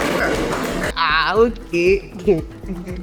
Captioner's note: crowd clapping; laughs